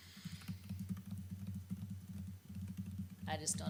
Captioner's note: keyboard tapping